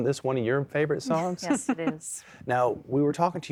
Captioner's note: giggling